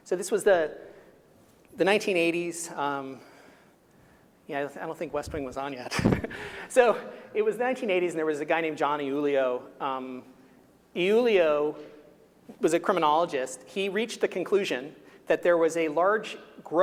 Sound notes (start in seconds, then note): 5.9 chuckling